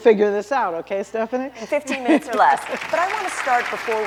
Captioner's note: applause